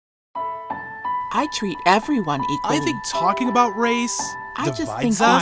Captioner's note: multiple voices speaking